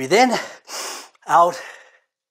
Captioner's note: inhales deeply